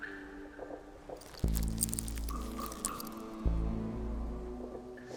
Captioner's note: rattling